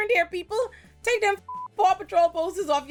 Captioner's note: beep